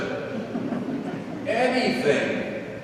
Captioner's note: congregation laughing